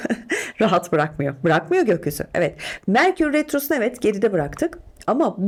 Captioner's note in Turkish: kahkaha